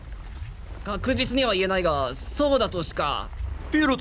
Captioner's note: stammers